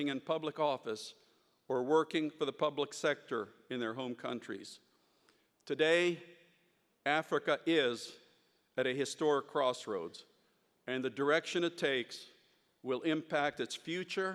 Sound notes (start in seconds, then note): none